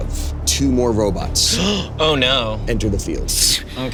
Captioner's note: gasps